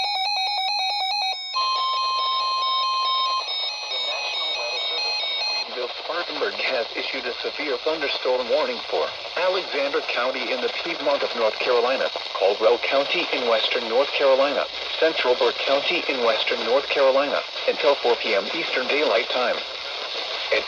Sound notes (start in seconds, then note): 0.0 12-254 and 12-259 sirens; 0.0 12-259 siren continues